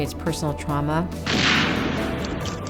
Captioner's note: gunshot